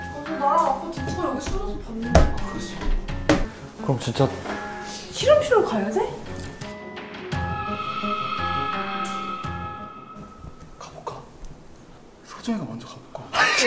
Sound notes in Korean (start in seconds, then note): 7.2 샤아아악, 공포스러운 효과음; 13.3 웃음